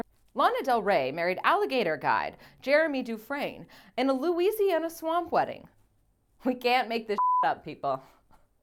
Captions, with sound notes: Lana Del Rey married alligator guide Jeremy Dufresne in a Louisiana swamp wedding. We can't make this (beep) up people.